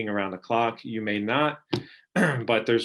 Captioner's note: clearing throat